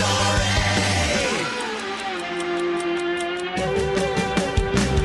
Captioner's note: ticking